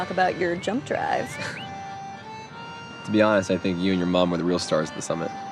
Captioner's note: chuckles